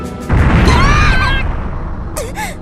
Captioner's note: panicked cries